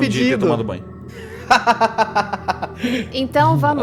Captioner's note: laughs